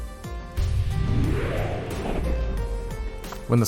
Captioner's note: swoooooooooooooosh